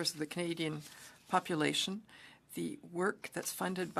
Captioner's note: speaking French